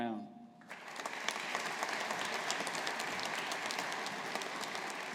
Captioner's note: audience applauding